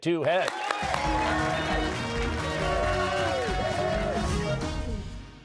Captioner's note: cheers and applause